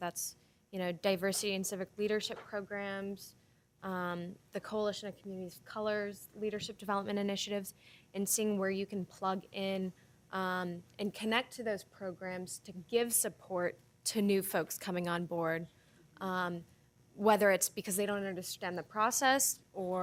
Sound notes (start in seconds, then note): none